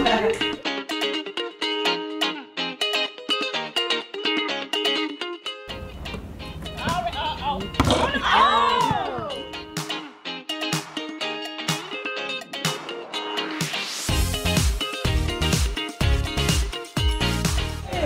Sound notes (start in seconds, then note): 0.2 lively instrumental music; 7.5 basketball bouncing; 7.8 people exclaiming